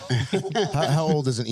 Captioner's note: laughing